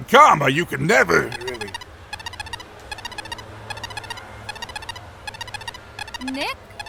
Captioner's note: electronic beeping